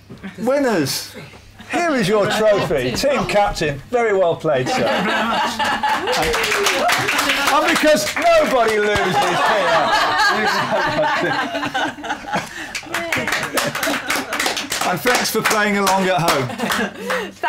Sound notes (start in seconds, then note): 4.6 laughter; 5.8 applause; 8.8 laughter; 12.5 applause